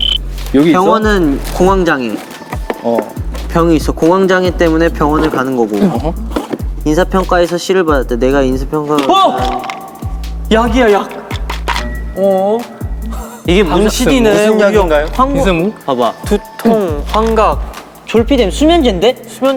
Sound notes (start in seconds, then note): 11.8 teary